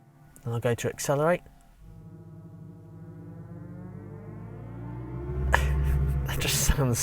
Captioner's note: car Ambient Noise; car Revving